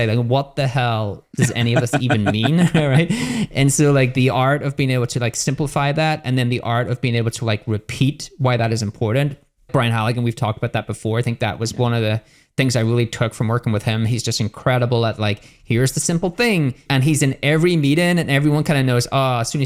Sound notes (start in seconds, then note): 1.3 laughing